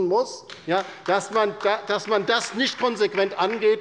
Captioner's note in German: Beifall bei der LINKEN